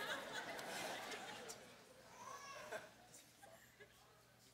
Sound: congregation laughing

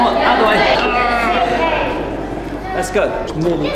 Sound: groans

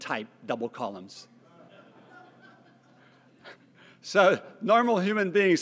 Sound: laugh

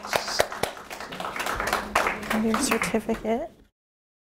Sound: applause

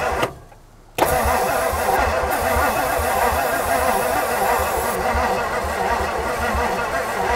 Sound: vehicle engine humming; spray can swishing

